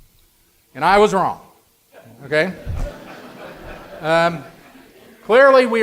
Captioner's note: audience laughter